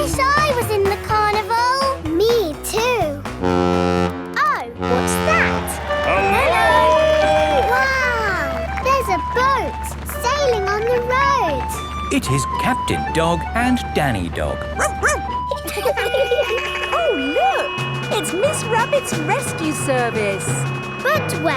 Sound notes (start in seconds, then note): 4.8 horn bellowing; 14.4 laughing; 14.6 barks; 15.9 sirens sounding